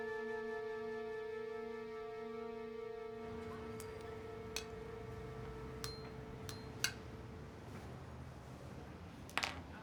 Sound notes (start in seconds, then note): 6.2 clinking